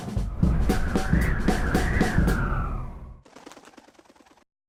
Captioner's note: wind whistling